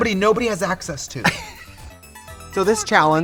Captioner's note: Katya laughs; upbeat music